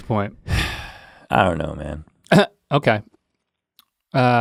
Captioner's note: sighs